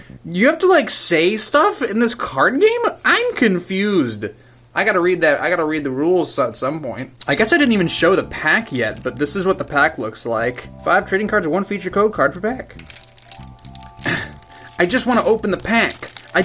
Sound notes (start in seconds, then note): 14.0 struggling noises